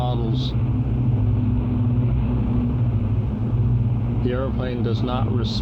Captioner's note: plane engines rumbling